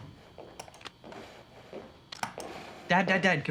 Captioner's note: footsteps clomping